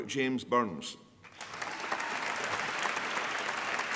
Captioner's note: applause